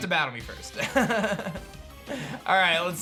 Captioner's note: laughs